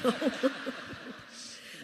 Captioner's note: laughter